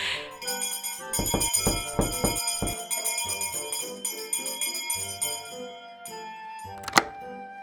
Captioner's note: excited noise; bell rings